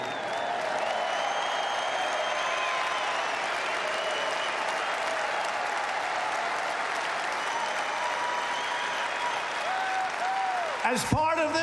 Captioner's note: applause